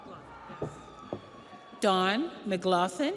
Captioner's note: audience cheers; audience applauds